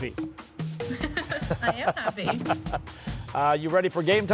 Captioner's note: laughs